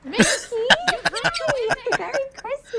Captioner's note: laughing